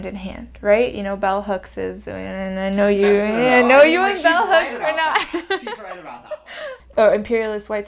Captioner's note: offscreen, laughing